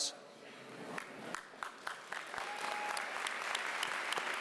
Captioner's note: applause